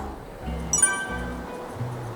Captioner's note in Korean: 띠링하는 소리